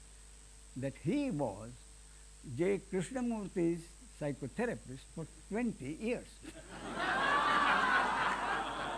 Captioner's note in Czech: smích